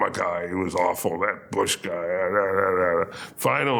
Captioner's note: grumbles